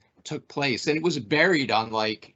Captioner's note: none